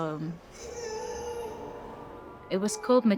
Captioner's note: baby grumbles